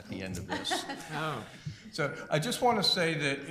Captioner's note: laughter